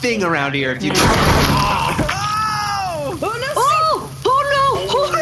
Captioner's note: A loud explosion as the blaster suddenly fires